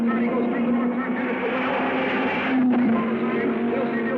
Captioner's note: car screaming